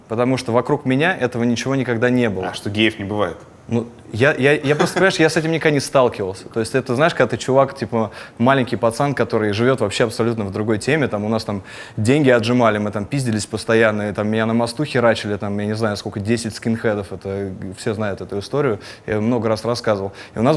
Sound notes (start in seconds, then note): 4.0 chuckles